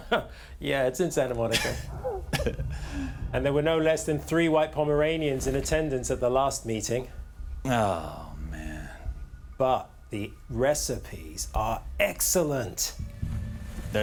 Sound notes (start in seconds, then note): 1.4 chuckles